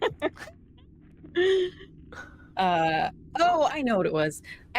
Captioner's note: laughing